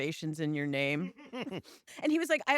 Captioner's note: laughs